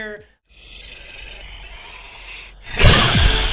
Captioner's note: growls